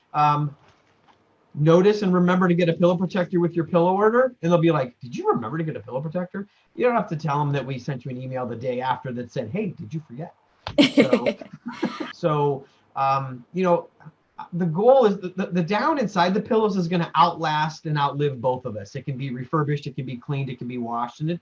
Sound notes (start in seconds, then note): 10.8 laughter